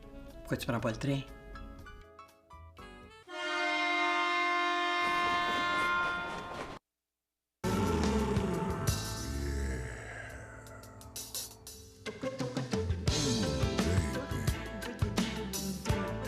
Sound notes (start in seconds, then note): 3.2 Sifflet de train; 7.7 Musique érotique